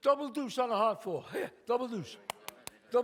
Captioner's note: claps